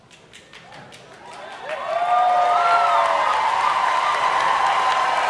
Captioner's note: audience applauding and cheering